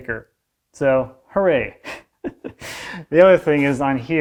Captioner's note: laughs